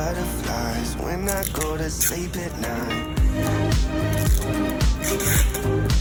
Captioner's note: gentle music continues playing; tape noises